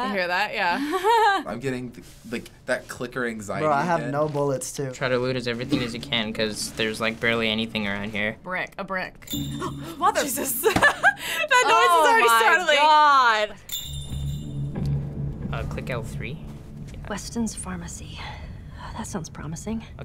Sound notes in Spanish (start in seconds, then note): 9.2 carillón; 13.6 carillón